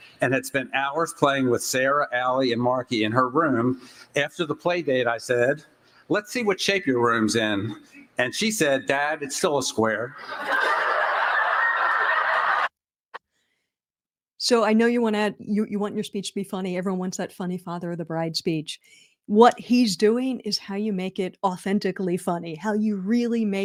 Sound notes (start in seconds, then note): 13.4 laughter